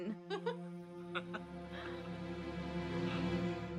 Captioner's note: both laughing